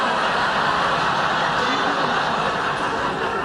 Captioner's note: laughing